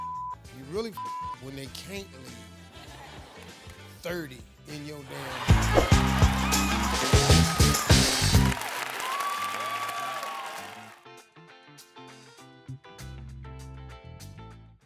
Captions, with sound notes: (beeping) You really (beeping) when they can't leave. 30 in your damn house. (upbeat music) (audience cheering) (light music)